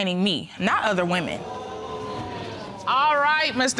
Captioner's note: audience exclaims